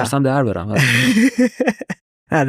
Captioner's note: laughs